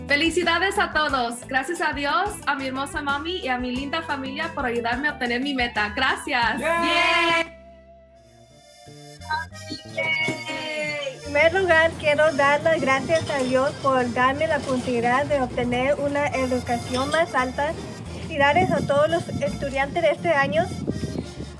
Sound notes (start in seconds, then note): 0.1 speaks in foreign language; 6.8 all cheering; 11.2 speaks in foreign language